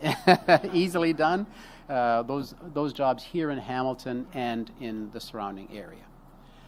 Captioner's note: laughs